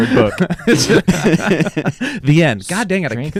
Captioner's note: laughing